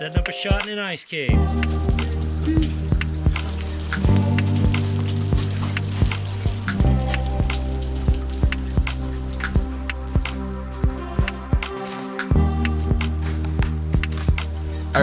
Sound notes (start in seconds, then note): 2.0 soft electronic music; 4.8 water pouring